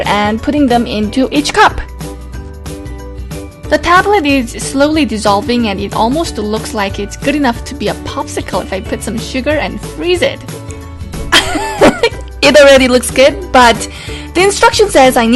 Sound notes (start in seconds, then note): 11.3 laugh